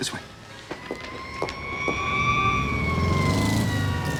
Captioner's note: city commotion